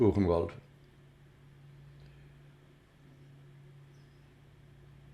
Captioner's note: pauses 6 seconds